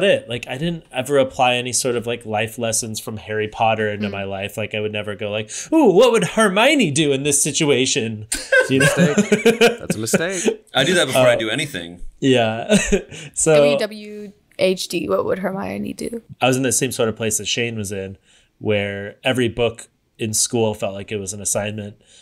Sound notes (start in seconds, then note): 8.4 laughs